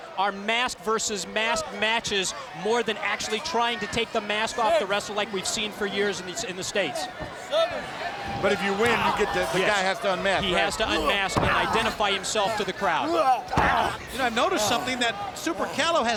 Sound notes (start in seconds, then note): 13.2 wrestlers grunting